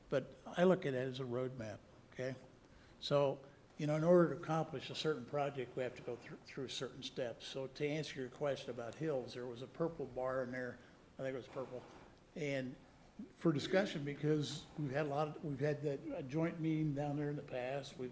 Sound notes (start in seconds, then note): none